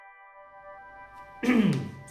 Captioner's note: Babar coughs